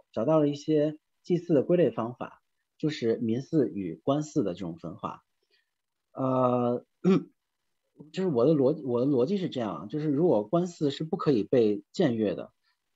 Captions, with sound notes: and some ways to classify sacrifices, including the differentiation between 'people's sacrifice' and 'official sacrifice'. [clears throat] Here is my logic. If official sacrifice is an intransgressible form